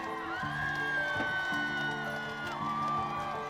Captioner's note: cheering